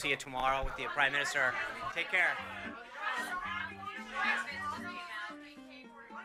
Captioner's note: reporters yell questions